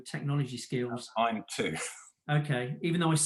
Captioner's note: chuckles